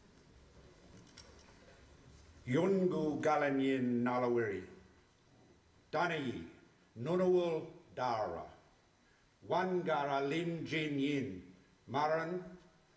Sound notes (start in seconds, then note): 2.6 speaking Ngunawal